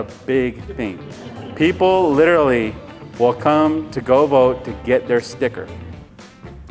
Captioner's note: chuckles; crowd laughs in agreement